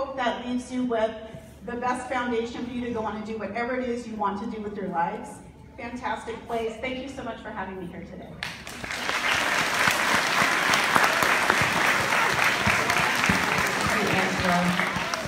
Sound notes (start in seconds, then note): 10.0 applause